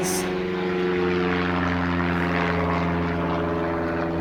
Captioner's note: plane engine roaring